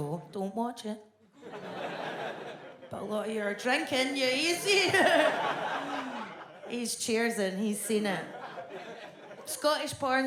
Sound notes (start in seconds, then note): 4.2 audience laughs